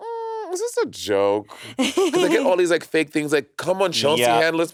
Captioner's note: laughing